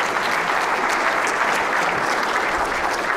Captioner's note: applause